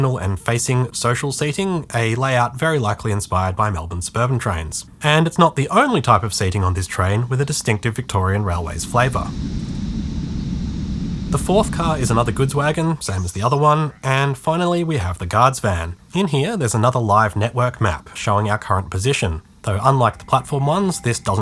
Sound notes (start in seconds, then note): 8.1 Monbulk creek ambience